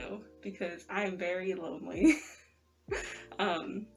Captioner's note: laugh